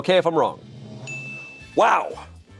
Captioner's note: chime dings